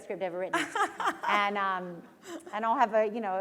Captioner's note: laughter